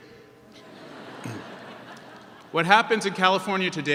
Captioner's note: audience laughs